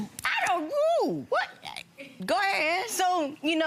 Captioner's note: groaning